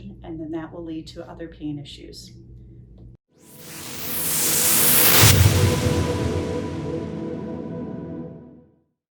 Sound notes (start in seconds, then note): 3.5 whooshing